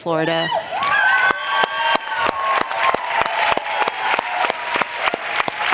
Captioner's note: applause